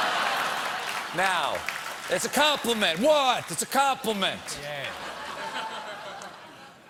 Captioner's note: applause; laughter